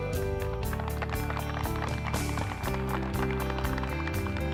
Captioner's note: audience clapping